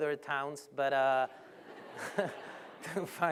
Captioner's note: laughter